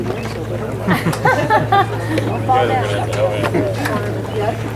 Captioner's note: audience laughs